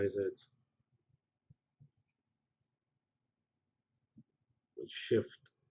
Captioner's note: pause